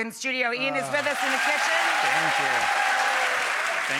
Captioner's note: audience applauding